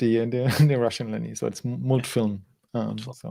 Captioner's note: speaking in foreign language